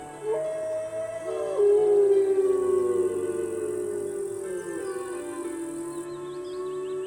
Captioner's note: wycie wilków, cicha spokojna muzyka, śpiew ptaków